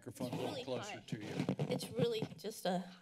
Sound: mic rustling

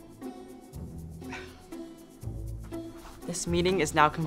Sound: chuckles

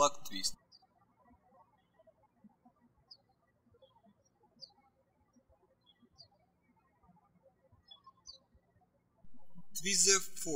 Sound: birds chirping

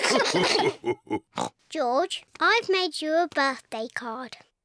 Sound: all laugh; oinks

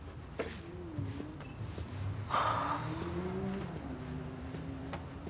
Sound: breathes deeply

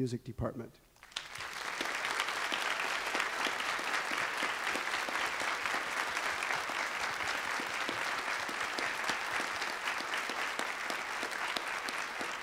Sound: applause

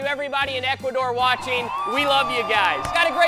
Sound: cheering

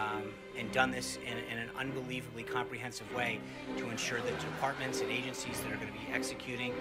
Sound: laugh track

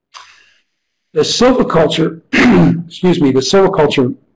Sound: sneeze

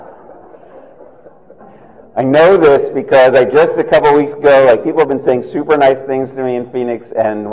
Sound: laughter

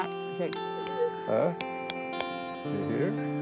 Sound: snapping

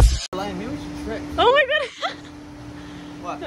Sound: laughs

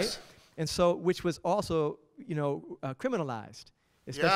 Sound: voiceover

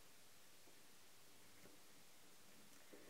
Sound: none

